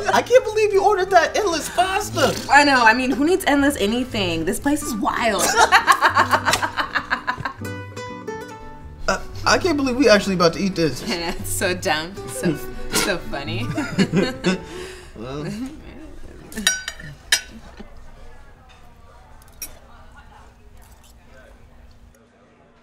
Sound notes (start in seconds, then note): 5.3 laughs; 13.5 people laugh; 16.5 silverware clanks; 18.8 ambient restaurant chatter